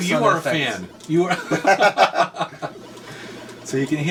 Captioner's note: laughs